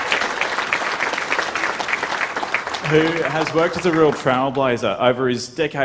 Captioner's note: applause